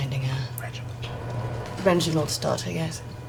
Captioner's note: whispering